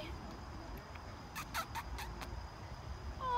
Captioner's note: kissing noises